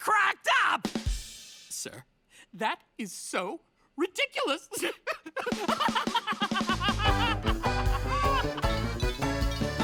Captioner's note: raucous laughter